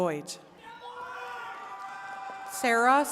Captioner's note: attendees cheering and clapping